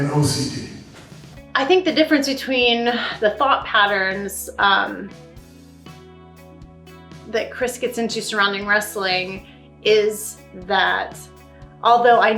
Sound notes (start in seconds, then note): none